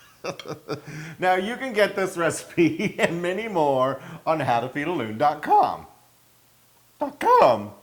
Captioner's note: laugh